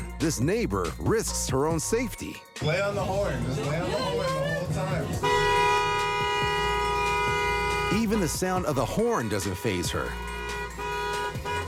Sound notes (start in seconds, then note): 5.4 horn honks